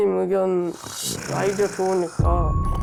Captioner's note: snoring sound